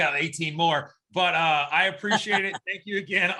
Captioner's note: laughs